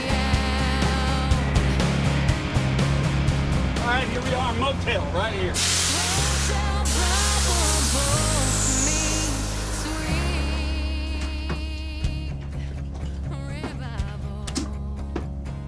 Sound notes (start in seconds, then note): 5.5 truck brakes hiss